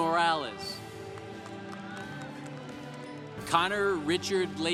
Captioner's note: congregation applauding